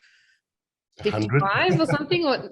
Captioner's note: laughing